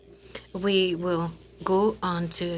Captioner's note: speaking French